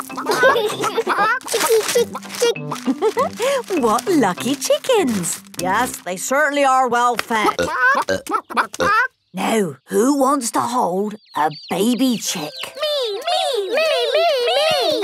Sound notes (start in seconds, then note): 7.2 clucking